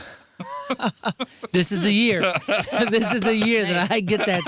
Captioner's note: laughing